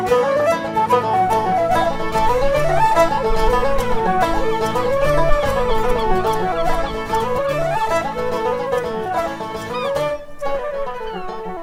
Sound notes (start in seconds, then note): 1.1 seagulls on the sea shore